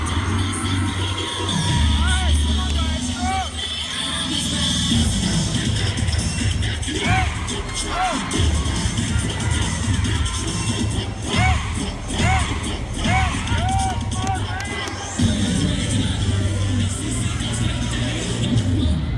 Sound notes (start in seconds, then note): 1.4 cheer music continues; 7.1 cheerleaders chanting; 15.2 cheer music playing